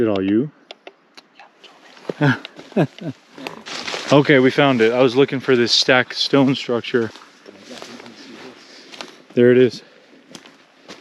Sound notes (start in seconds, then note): 2.1 chuckles